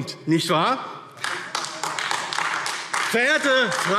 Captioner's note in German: Beifall AfD